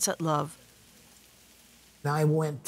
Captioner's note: food sizzling